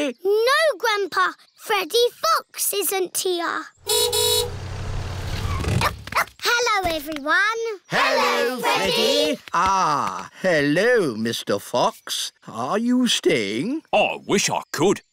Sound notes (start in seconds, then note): 3.8 horn honks; 3.8 freddy barks